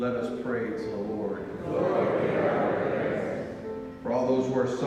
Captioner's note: crowd